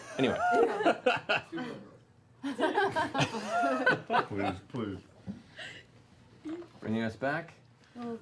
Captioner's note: laughter